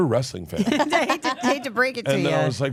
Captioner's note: laugh